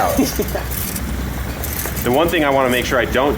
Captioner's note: laughing